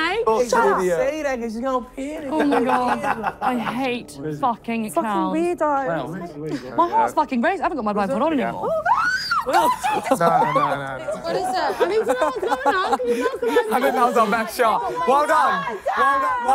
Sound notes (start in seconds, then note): 8.6 screaming